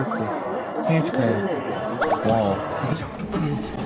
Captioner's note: Korean